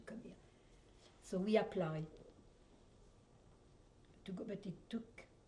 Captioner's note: pauses for 3 seconds